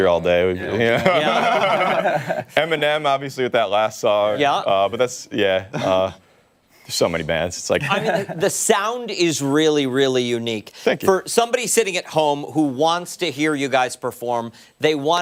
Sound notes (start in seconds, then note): 5.6 laughter